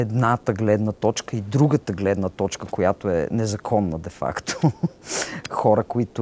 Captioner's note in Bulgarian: смее се